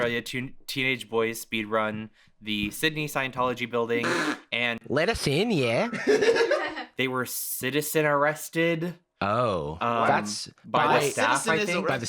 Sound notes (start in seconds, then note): 5.9 laugh